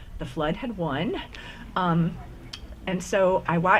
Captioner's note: none